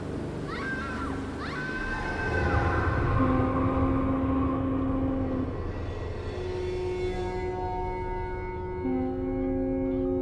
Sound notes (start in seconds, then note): 2.3 eerie music; 2.8 boat horn blaring; 4.1 seagulls squawking